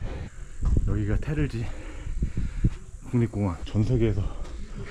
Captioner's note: gasp